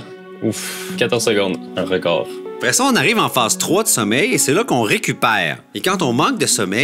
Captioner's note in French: none